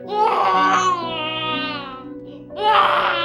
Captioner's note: baby crying